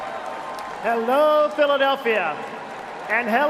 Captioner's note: cheering and applause